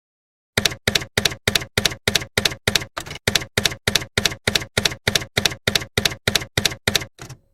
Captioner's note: typewriter keys clacking